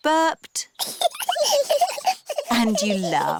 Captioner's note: both burping; both giggling